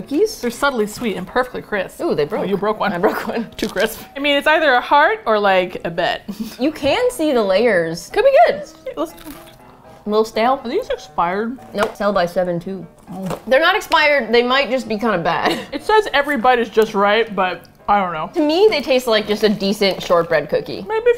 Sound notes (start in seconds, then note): 2.8 laughs; 9.1 crunch; 15.4 laughs